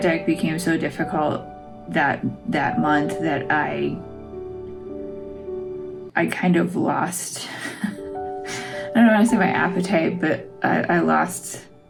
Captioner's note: laugh